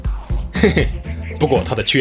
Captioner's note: laugh